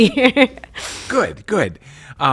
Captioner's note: laughs